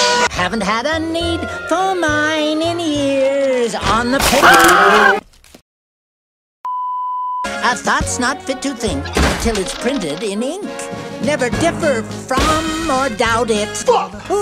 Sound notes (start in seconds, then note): 4.2 bones Snapping; 4.2 rabbit Scream